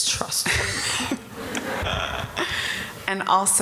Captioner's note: audience laughter